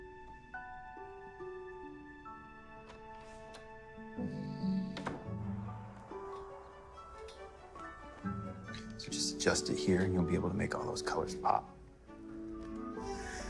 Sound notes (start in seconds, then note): 2.4 door opening, closing; 12.9 sighing